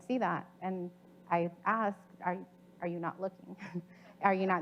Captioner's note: chuckles